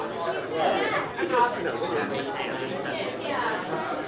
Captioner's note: all chattering